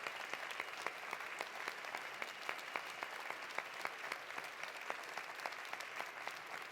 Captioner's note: applause continues; cheering continues